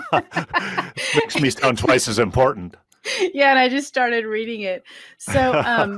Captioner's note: laughing